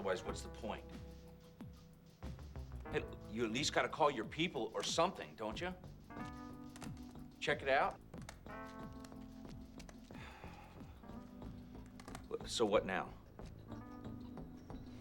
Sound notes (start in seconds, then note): 8.0 huffs